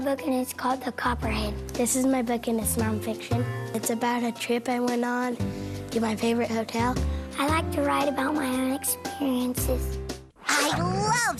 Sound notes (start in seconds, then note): none